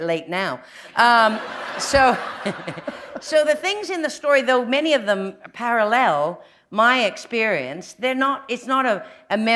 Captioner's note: laugher